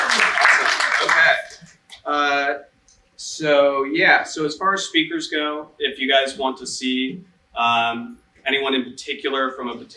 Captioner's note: applause